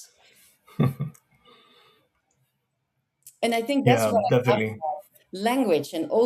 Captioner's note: chuckles